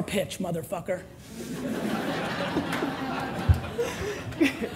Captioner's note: audience laughter